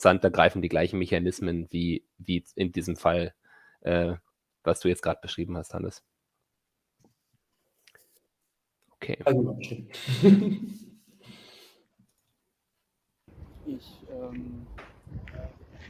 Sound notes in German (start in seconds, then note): 10.0 lacht